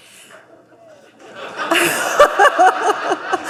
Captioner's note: laughter